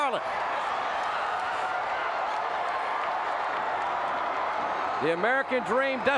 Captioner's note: audience cheering